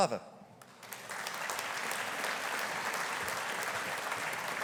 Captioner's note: audience applauding